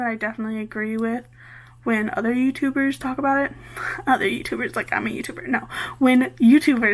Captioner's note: laughs